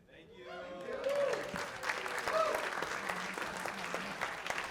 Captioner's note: cheers and applause